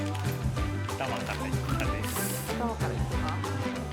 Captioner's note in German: lacht